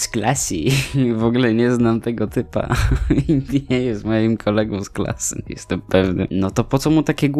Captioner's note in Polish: się śmieje; się śmieje